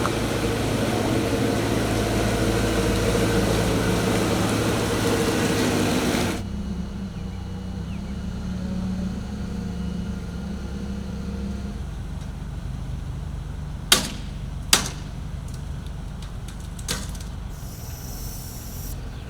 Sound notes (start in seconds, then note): 14.2 chains popping